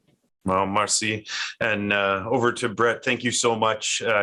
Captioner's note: speaking in foreign language